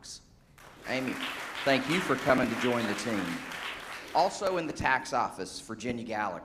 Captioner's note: applause